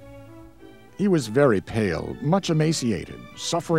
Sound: voiceover

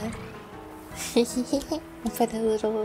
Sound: giggling

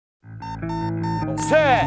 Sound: beeping

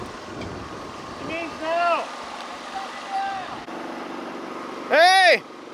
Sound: crew chattering

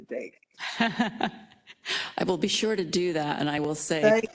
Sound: laugh

